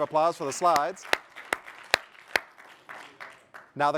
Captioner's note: applause